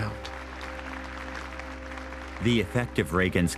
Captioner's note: crowd applauding